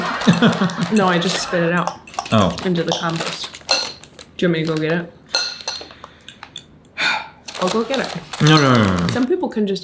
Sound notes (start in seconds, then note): 6.4 sighs